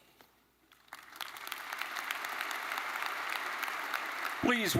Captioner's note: attendees applauding